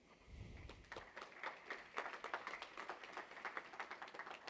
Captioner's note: applause